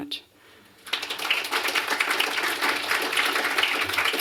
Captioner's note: applause